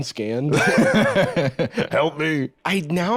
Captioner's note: laughs